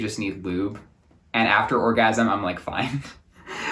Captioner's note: laughs